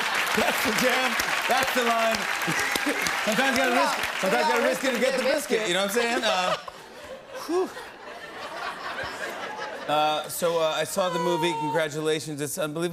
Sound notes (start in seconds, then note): 0.0 cheers and applause; 2.4 laughs; 8.3 laughter